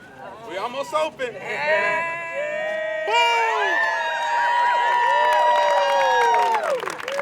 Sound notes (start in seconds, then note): 1.5 people cheering